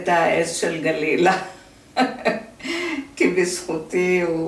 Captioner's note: laughter